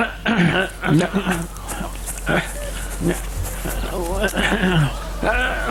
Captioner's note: footsteps in leaves